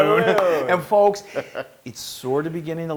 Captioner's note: laugh